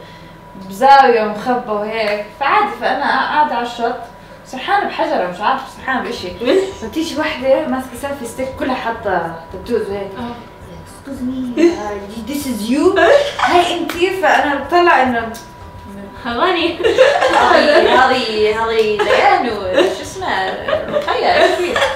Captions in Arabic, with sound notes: It was hidden away out of sight. And I was just sitting on the beach. I was staring at a rock or something. A heavily tatted woman carrying a selfie stick comes at me and goes like, (in French accent) "Excuse me. This is you?" Is that you? I just stared, like... (in bedouin dialect) 'Tis me. (in bedouin dialect) This is-- This is Layan and that girl Roqayya.